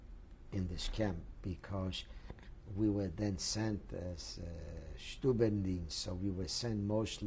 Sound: german

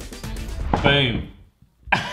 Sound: laughing

